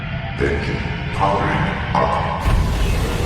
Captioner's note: engines powering up